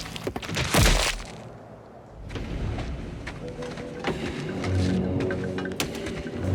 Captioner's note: slashing and thudding